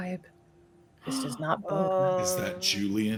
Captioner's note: gasps